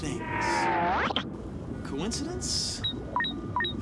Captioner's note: beeping